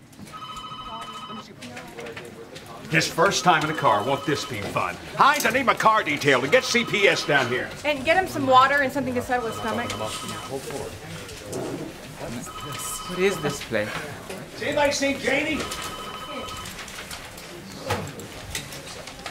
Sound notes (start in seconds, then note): 0.2 telephone ringing; 12.4 telephone ringing; 15.1 telephone ringing